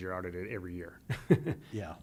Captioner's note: chuckle